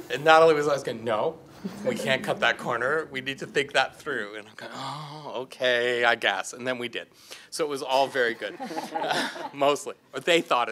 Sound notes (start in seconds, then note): 8.0 group laughing